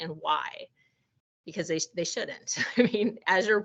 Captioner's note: chuckling